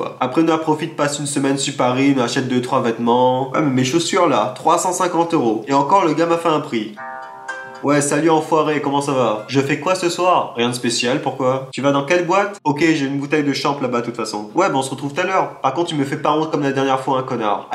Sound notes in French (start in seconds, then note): 7.0 sonnerie de téléphone